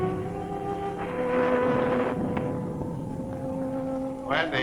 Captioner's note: thunder rumbling; wind howling